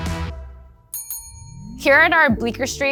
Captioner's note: bell dinging